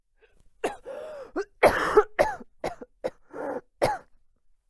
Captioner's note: coughing fit